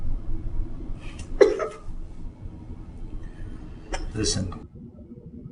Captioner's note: sobbing